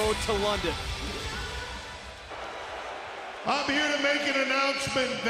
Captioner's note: crowd cheering